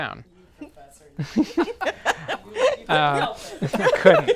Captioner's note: group laughs